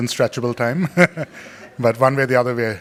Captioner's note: laughing